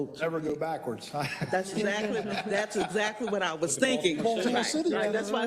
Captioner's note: laugh